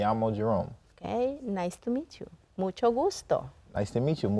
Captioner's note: in Spanish